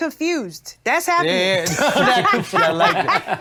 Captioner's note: everyone laughs